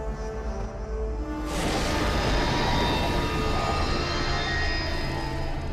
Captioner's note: doorway fizzling